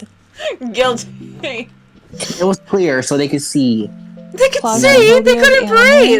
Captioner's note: laughing